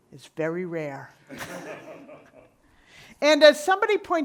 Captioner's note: audience laughing